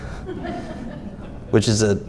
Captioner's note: audience laughs